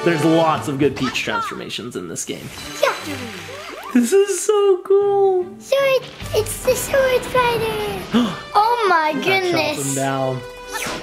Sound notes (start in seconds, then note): 8.1 gasps